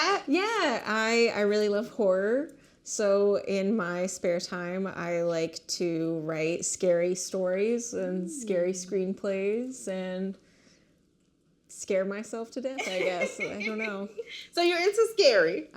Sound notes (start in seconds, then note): 12.8 laughing